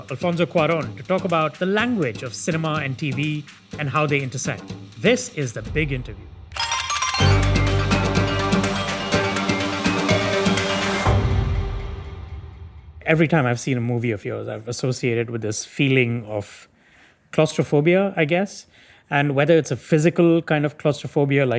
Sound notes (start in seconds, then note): 6.5 upbeat music; 6.6 camera clicking